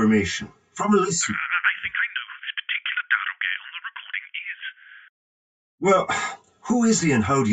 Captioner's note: on phone